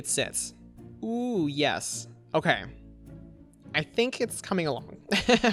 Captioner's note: laughs